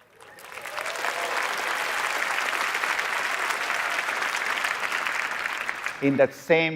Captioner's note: applause